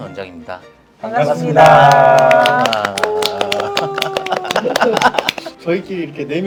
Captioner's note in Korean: 박수